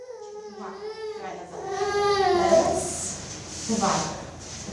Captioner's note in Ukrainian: Плач немовляти